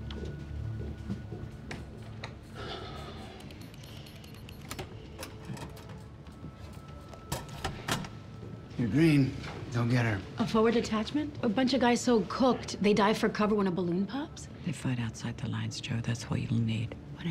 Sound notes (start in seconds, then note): 3.0 Byron sighing; 3.5 buttons beeping; 5.6 door opening and closing